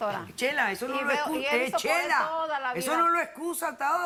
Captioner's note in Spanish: Hablan al unísono